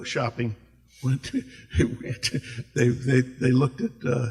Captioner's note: laughs